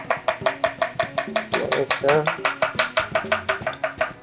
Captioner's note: knife banging